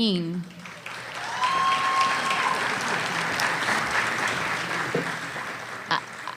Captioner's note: audience cheering and applause